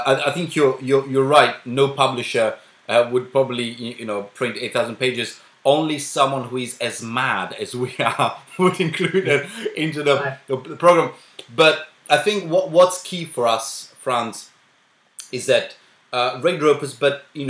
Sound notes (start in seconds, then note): 8.4 haha